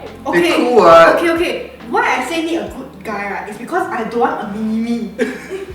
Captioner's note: laughter